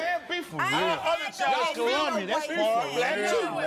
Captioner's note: heated chatter